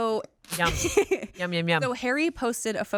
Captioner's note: laughs